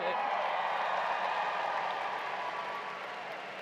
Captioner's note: applause